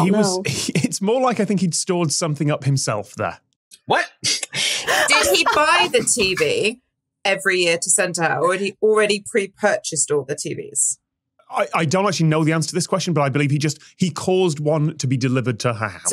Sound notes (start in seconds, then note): 4.6 cackles; 4.7 scoffs